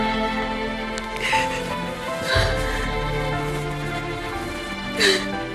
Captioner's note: Amor sobbing